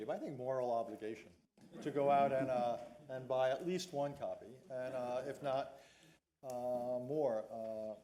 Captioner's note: laughter